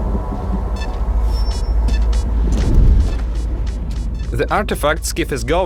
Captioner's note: gilka beeping faster and faster